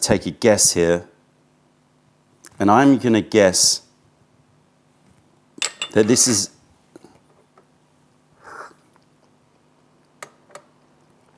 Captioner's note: sips tea